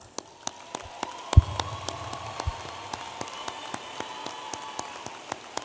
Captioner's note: audience applauding and cheering